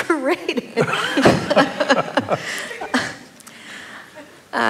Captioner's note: laughter